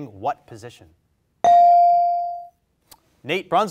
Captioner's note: bell rings